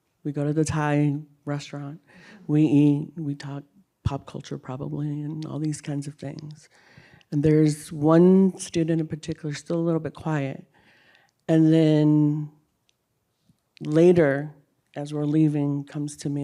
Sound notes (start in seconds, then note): none